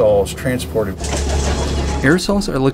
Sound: bus doors open

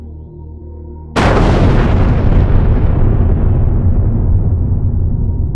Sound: thunderous explosion

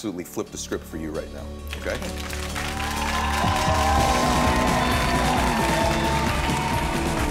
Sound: audience clapping

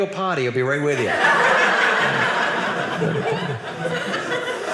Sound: audience laughing

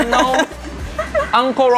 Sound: woman laughing

